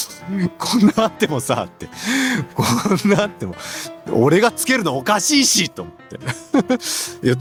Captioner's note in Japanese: 笑い